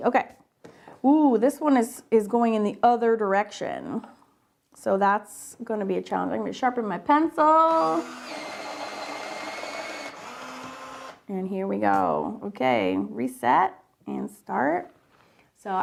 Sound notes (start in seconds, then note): 7.6 pencil sharpener whirs